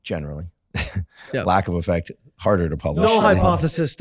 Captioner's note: chuckles